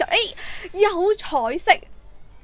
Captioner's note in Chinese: 吸气